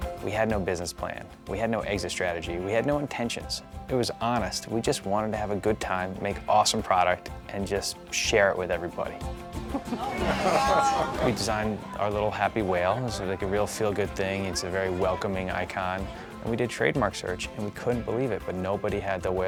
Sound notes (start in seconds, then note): 9.6 laughter